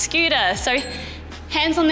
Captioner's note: bell chimes